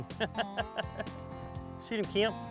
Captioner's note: laughs